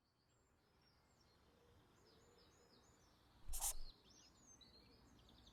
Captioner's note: birds chirping